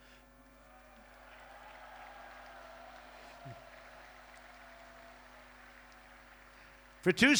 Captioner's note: applause